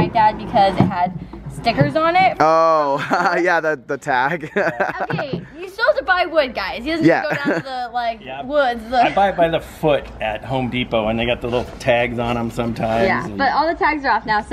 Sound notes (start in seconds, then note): 4.0 laughs